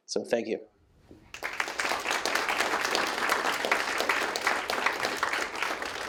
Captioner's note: applause